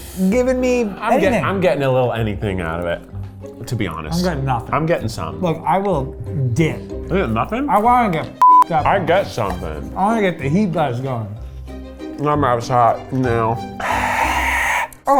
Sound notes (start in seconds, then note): 8.4 beep; 13.8 exhaling sharply